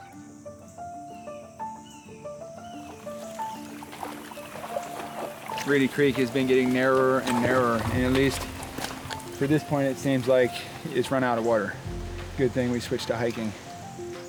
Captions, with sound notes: (sloshing) - Reedy Creek has been getting narrower and narrower and at least to this point, it seems like it's run out of water. Good thing we switched to hiking.